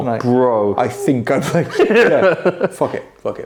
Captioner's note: laugh